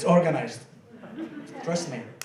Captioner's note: laughing